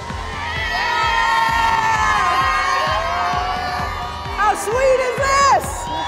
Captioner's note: cheering